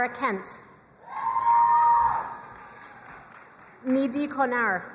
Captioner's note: crowd cheering and applauding